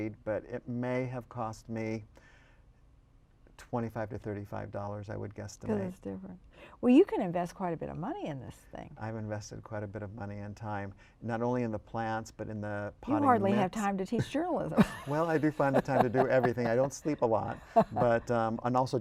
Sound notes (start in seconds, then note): 14.7 laughter